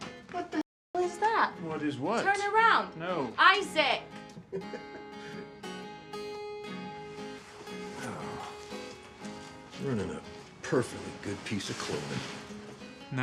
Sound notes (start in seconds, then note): 4.3 Abe chuckles